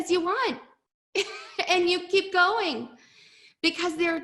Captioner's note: chuckles